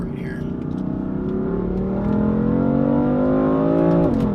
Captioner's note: car engine roars